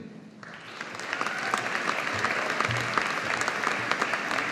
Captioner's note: audience applauding